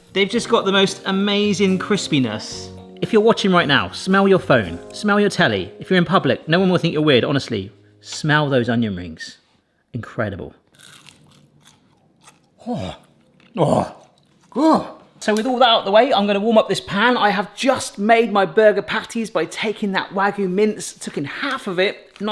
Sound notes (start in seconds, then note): 10.7 onion ring crunching